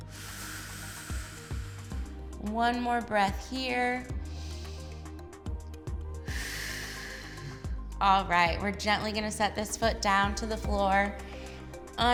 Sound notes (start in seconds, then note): 0.0 exhales; 4.4 inhales; 6.2 exhales